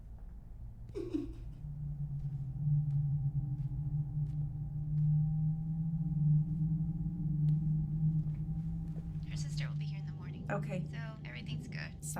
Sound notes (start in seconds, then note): 1.0 disembodied giggle; 1.0 gentle, ominous music